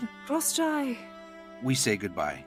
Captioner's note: Ukrainian